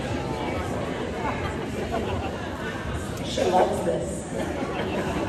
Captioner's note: laughter